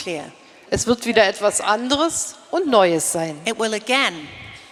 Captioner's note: speaking in German